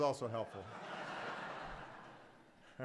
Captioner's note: laughter